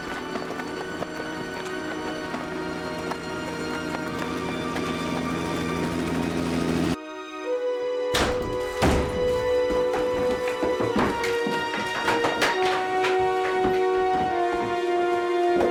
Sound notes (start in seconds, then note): 5.6 helicopter chopping; 8.1 door slamming